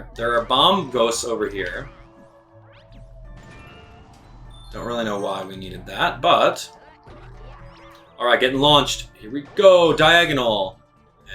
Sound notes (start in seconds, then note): 2.6 gaming sounds; 2.6 instrumental music